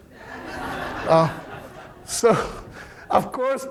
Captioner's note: audience laughing